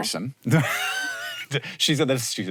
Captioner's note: both laughing